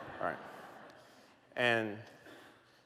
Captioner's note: laughter